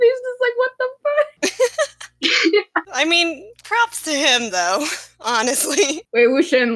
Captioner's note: laughs